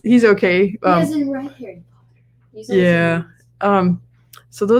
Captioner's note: voice fades